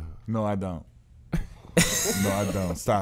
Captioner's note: Darius and Fabolous laughing; laughs